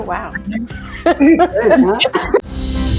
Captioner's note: all laughing; soft upbeat instrumental music